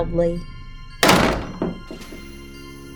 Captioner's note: door slam!